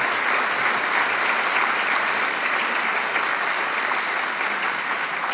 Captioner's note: audience continues applauding